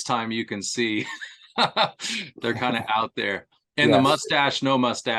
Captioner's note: laughter